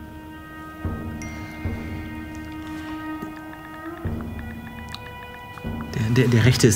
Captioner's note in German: Chatgeräusche